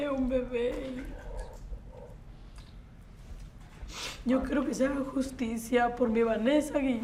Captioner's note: speaks in Spanish